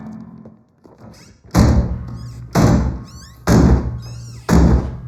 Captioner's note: piano top banging